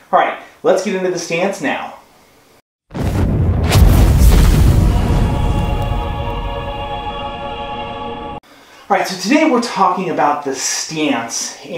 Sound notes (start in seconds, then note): 2.9 explosion